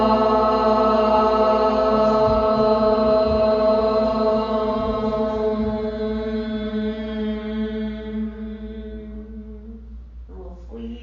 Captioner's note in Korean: 우주의 소리